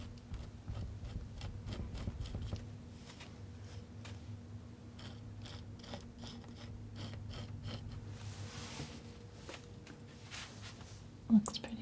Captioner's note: scratching